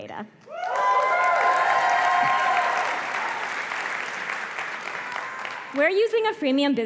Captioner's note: applause